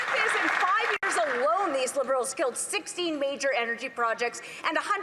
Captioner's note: some Applause